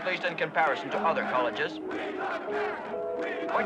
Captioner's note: chanting